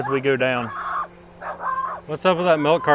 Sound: dog barks

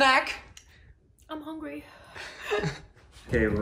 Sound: laughs

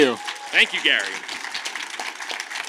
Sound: audience claps

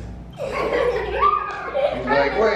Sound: laughing

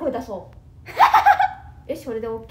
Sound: crazy laughter

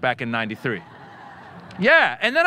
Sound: audience laughing

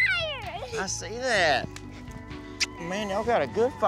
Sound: smooch

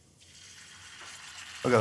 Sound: sizzling

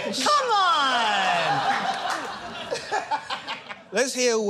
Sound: laughter

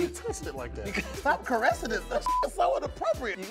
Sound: beep

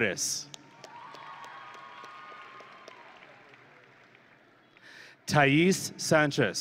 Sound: audience and graduates cheering

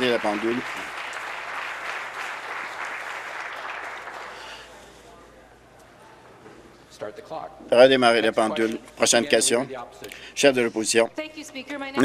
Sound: applause

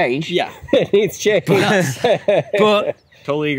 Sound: laughs

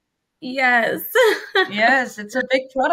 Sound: chuckles

